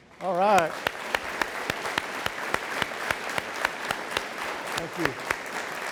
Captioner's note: audience applauds